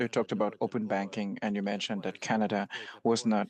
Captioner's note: speaking French